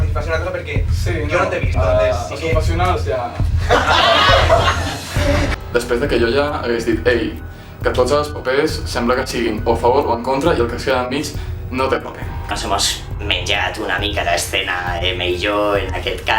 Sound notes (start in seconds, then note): 3.5 laughs; 5.6 tense music